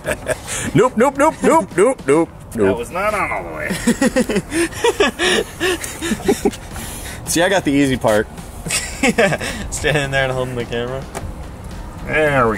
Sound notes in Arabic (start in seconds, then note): 0.0 يضحك; 3.6 يضحكان